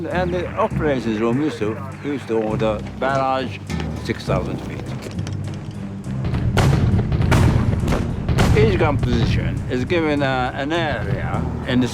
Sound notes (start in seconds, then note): 6.5 gunshot fire